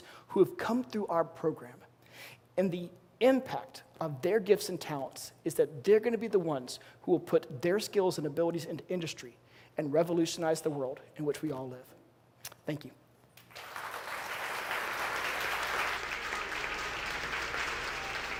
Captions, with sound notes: who have come though our program. And the impact of their gifts and talents is that they're gonna be the ones who'll put their skills and abilities into industry and revolutionize the world in which we all live. Thank you. (audience clapping) (lively music)